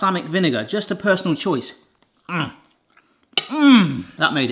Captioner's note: grunts